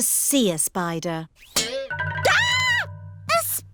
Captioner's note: screams